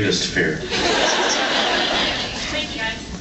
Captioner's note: laughs